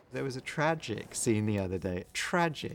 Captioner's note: none